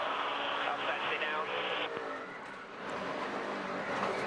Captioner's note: radio